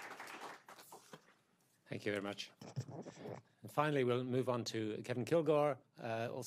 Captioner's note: applause